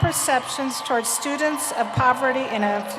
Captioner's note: applause